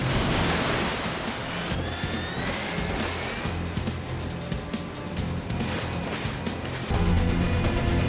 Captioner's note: big splash; machine whirring, splashes